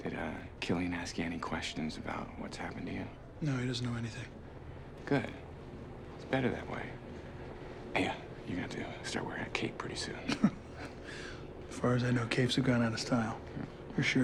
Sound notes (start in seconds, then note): 10.2 laughs softly